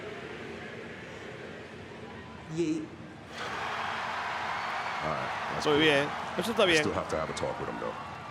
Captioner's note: applause